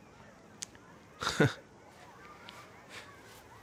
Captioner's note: laughs